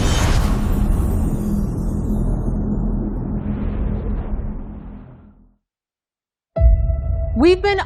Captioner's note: dramatic sound